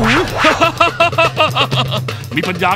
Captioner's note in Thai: หัวเราะ